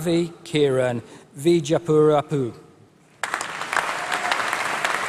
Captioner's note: applause